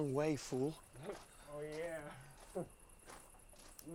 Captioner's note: chuckles woozily